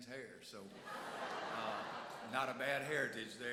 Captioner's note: audience laughs